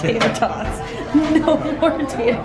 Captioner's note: laughing